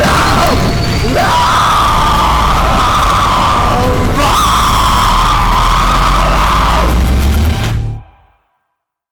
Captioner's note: total shattering scream